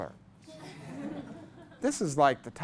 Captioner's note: class laughs